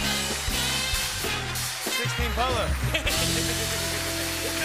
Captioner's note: cheers and applause; laughs